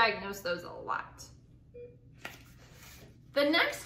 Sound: beeping

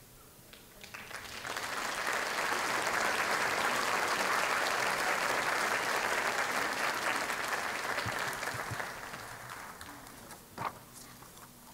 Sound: applause

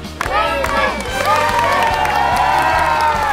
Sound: Everyone shouts "Queenie"

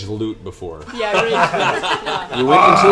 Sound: all laugh

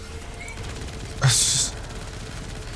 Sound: sniggers

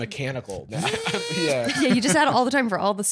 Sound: robotic noise

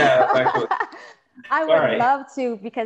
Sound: both laughing

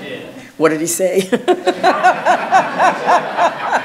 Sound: audience laughs; laughs

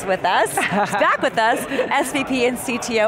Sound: laughing

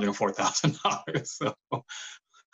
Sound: laughter

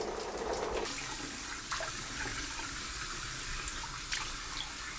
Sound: water splashes

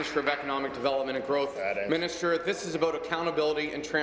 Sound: applause

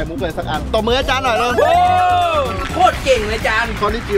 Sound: applauding

